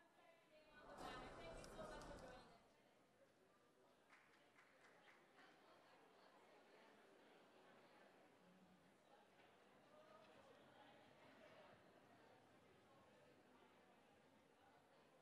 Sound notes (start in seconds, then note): 0.0 background chatter